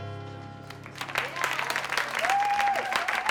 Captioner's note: clapping and cheering